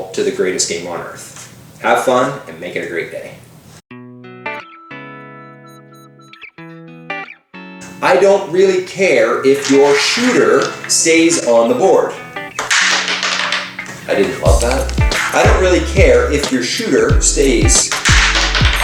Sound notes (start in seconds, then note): 12.6 button clatters; 17.8 button clatters